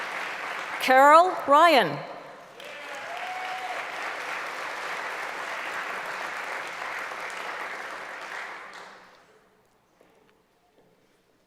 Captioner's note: applause; applause